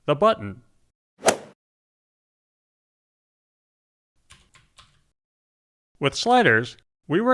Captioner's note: golf swing sound effect